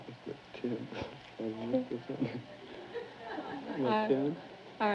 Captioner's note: whispering